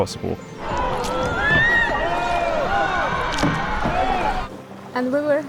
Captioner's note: tourists screaming even louder